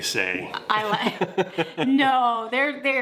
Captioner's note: laughs